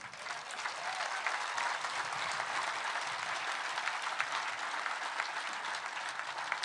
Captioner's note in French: Acclamations et applaudissements